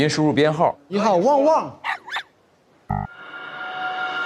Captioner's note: woof, woof